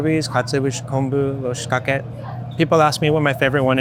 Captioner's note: speaking in foreign language